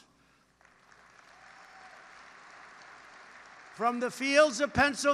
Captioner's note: applause